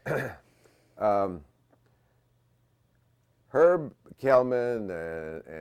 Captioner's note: cough